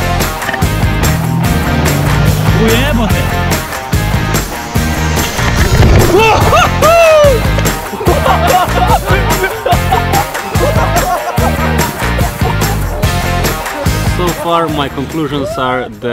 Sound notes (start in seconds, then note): 0.0 jet ski engine revving; 2.7 speaks in Slovenian; 7.7 laughter